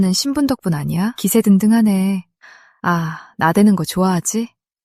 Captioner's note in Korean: 한숨; 헉 소리